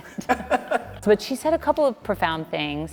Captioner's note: both laughing